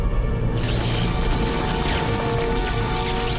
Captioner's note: electricity crackling